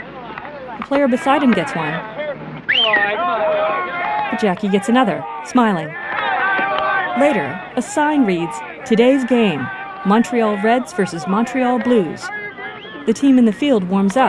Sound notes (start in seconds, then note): 0.5 random shouting; 7.5 players talking loudly